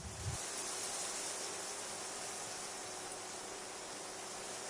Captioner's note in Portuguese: Som do vento nas folhas das árvores